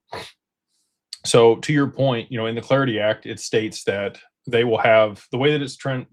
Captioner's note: snorts